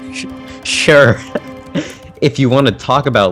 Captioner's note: nervous laughter